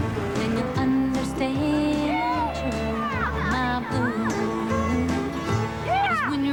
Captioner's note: shouts of excitement